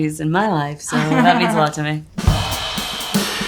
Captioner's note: Nia laughs; upbeat drum music